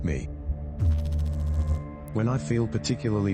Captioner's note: electrical noise